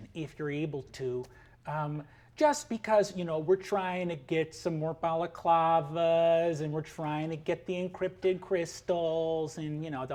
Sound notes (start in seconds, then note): none